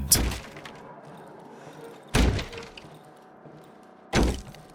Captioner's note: door banging